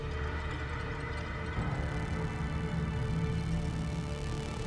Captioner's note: static buzzing